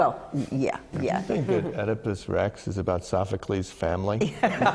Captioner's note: laughter